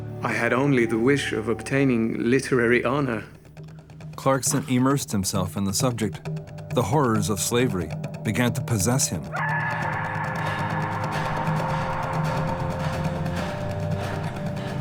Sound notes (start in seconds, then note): 9.3 man screaming